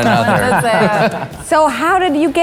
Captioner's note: group laughing